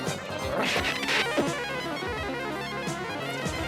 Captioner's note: brain growling